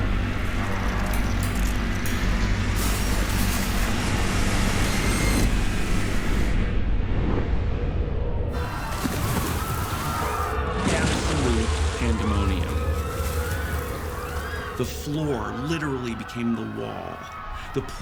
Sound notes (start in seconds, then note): 6.7 water whooshing; 8.7 people screaming